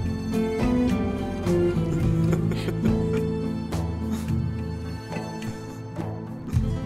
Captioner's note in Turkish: Gülüyorlar